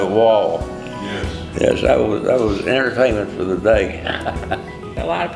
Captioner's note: laughs